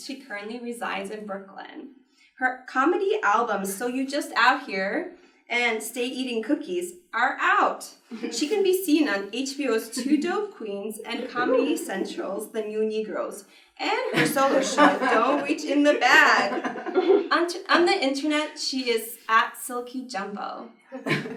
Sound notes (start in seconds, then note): 14.0 everyone laughs; 20.9 laughs